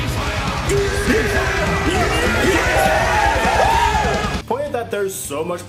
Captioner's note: screaming for Joy